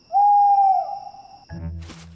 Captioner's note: owl hoots